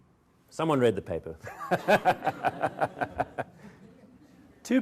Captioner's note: laughs